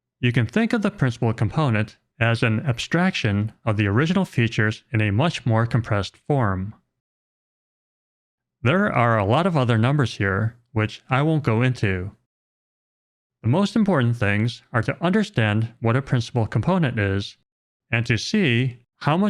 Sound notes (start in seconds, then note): none